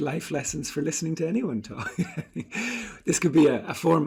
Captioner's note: laughs